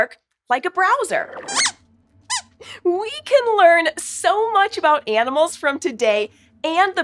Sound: squeaks squeaks

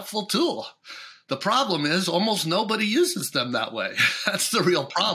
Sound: chuckles

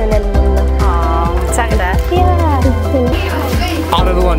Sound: speaking in Spanish

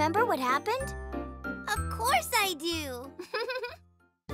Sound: chuckles

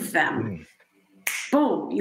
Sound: fingers snapping

